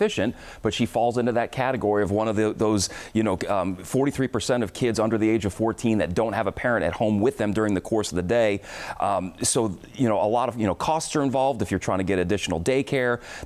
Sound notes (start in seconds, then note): none